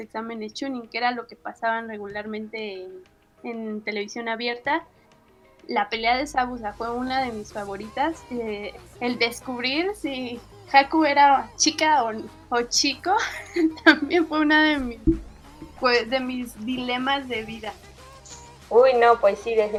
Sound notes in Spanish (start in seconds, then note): 13.2 risas